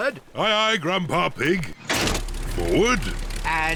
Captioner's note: lever clunks